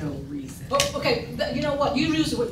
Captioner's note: stammers